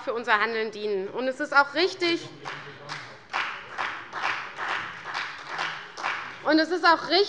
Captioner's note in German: Beifall bei der CDU und dem BÜNDNIS 90/DIE GRÜNEN